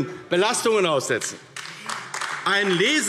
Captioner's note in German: Beifall AfD